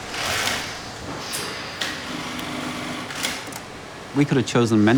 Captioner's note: machines buzzing